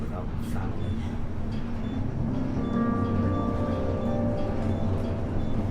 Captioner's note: sound of an elevator going up